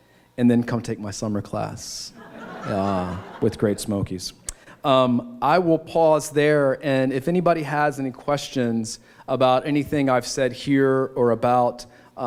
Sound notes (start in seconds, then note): 2.1 laughter